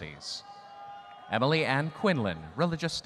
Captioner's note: audience cheering